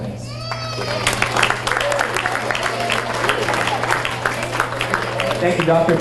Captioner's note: audience cheers and applauds